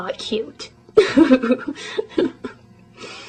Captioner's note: laughs